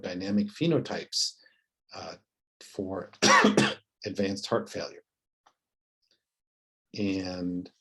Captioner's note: cough